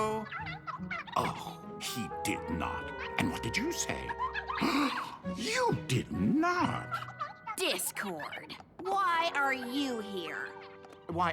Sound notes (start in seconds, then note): 4.6 gasp